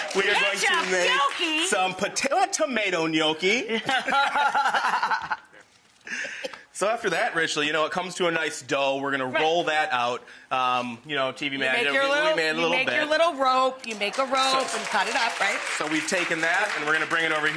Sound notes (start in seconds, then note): 0.0 audience cheers; 3.7 laughs